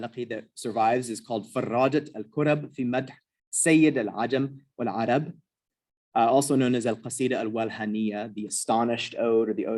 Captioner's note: non-english